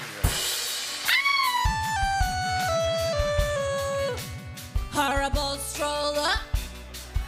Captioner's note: distorted voice